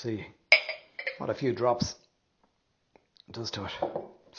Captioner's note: glass clinking